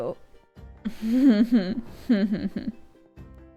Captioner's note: pained laughing